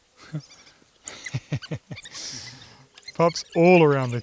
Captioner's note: laughing